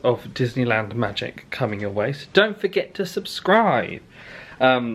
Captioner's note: none